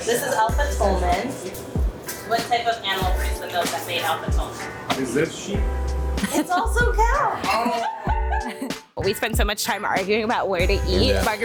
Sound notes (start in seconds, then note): 8.6 laughing